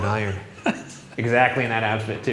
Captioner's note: laughs